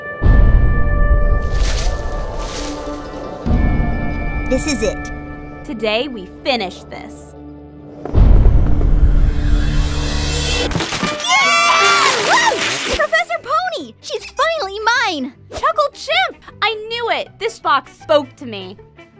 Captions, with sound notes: (tense music) - This is it - Today we finish this. (excited yelling) - Professor Pony! She's finally mine. _ Chuckle Chimp! I knew it. This box spoke to me.